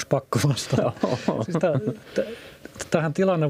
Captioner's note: naurua